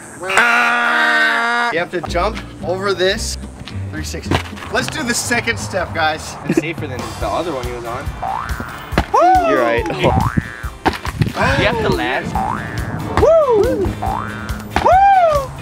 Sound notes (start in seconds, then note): 8.2 boing; 9.9 boing; 12.3 boing